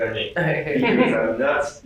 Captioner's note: laughter